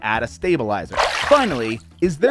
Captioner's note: splashing tone